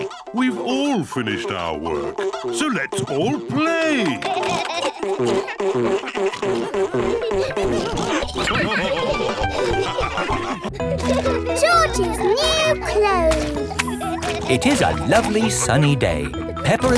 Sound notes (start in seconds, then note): 7.9 all laugh